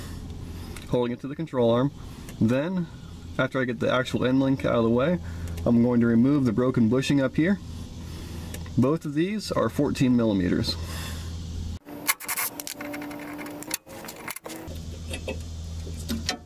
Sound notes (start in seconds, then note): 11.8 tool sounds